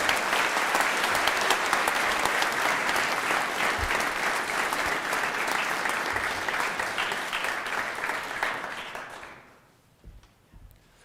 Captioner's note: applause